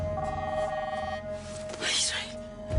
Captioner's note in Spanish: Suena el celular